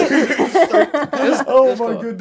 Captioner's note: laughter